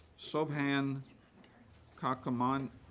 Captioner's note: none